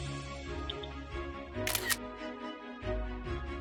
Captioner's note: camera shutter sound